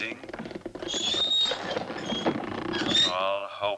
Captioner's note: cart wheels continue creaking